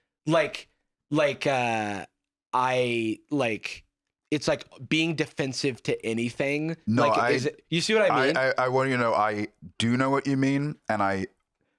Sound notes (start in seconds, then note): none